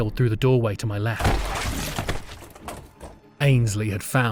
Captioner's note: SFX crunch and blood